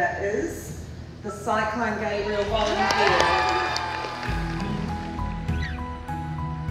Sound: cheering, applause

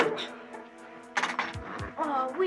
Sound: stable door clicks

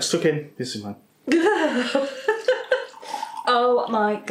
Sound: laffin

